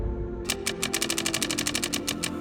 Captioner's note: clicking sounds